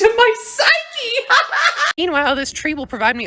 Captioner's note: agonized laugh